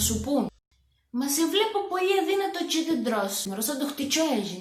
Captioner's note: in cretan accent